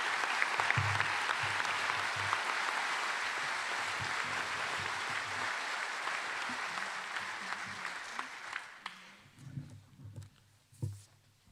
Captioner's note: applause